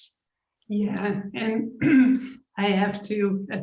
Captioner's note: clears her throat